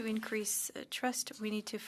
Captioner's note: speaking French